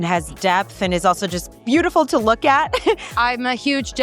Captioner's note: laughs